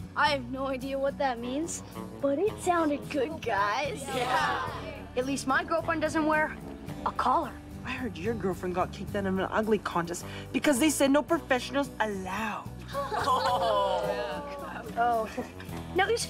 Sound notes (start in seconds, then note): 12.9 laughing